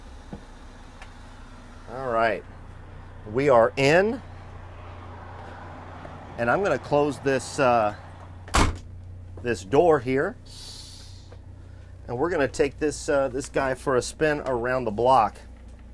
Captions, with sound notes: All right, we are in. And I'm gonna close this (door thumping) this door here. (air hissing) And we're gonna take this guy for a spin around the block.